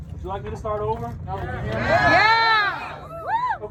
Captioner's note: crowd cheers: YEEESS!!!!